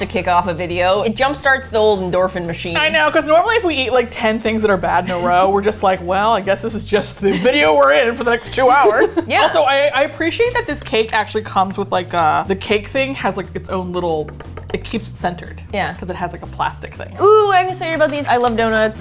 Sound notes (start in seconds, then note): 8.6 laughs; 13.9 tap tap tap